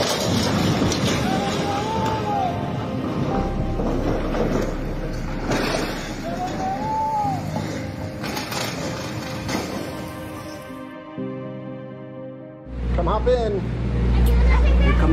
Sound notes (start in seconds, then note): 1.6 yelling